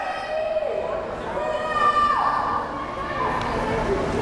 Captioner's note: crowd cheering